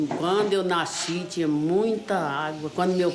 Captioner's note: Portuguese spoken audio